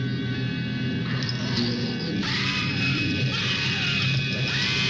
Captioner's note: woman screaming